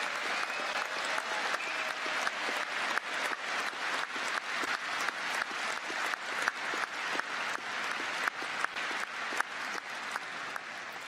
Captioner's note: applause